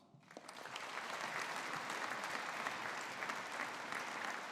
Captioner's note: audience applauding